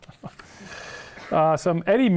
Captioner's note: laughing